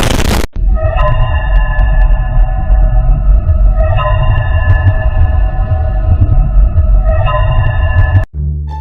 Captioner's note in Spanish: Sonido de terror y miedo